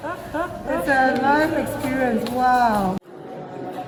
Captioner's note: laughs